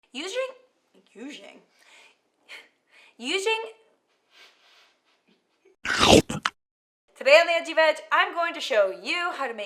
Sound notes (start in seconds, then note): 5.8 gulp